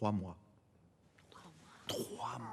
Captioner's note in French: x2 chuchotement